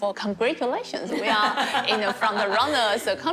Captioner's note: laughs